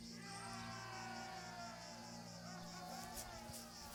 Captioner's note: crowd cheering